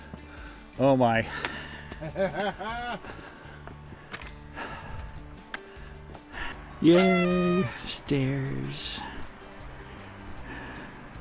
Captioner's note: laughing